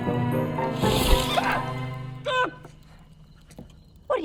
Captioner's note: Nigel screams